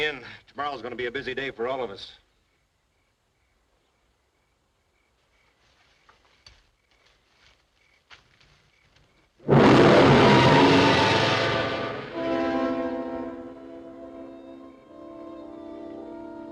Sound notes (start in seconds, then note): 5.4 rustling softly; 9.4 ominous music; 13.7 dramatic music